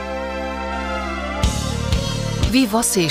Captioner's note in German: Babygebrabbel